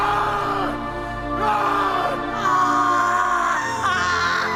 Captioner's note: dramatic music; both screaming